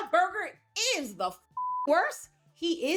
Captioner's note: beep